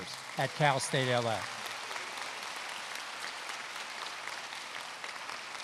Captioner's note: applause